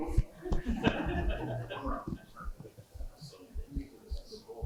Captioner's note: laughter